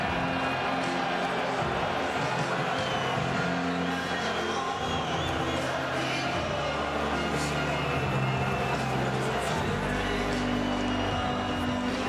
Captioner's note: crowd Noise